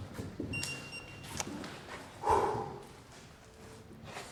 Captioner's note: EMF meter beeps